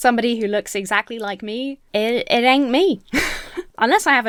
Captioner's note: chuckles